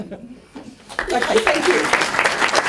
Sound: applause

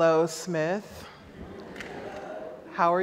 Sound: audience laughs

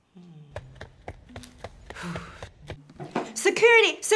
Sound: banging on door

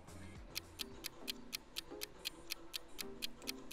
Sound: clock ticking

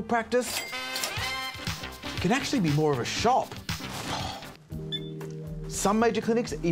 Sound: ka-ching!

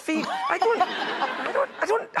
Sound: audience laughing

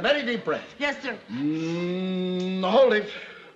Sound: humming

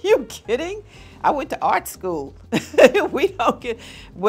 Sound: chuckles

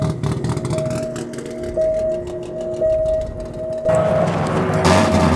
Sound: car engines revving

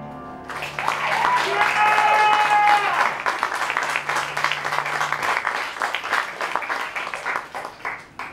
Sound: applause

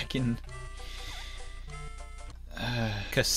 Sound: sigh

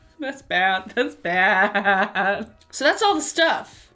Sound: laughs

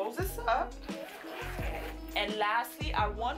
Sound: zipper closing

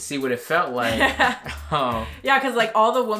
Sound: laughs

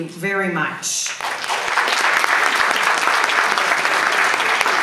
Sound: audience applauds

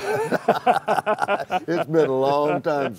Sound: laughter

